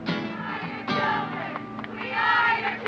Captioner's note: group Chanting